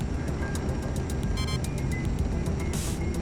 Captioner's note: beep!